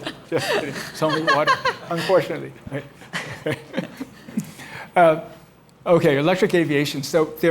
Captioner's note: laughter